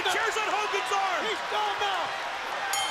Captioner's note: bell ringing